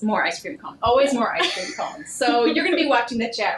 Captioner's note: laughing